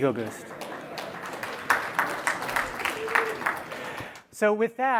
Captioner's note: applause